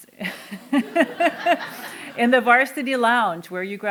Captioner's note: laughter